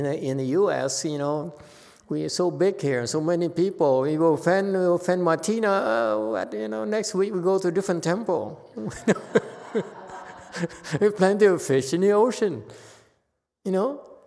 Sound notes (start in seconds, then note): 8.8 laughs, audience laughs